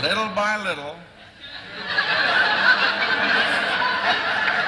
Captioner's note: laughter